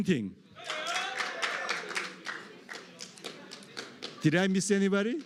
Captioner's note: applause